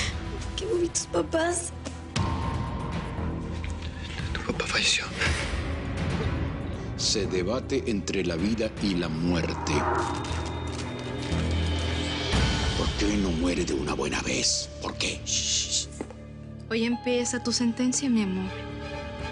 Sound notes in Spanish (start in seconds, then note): 9.6 Sonido de monitores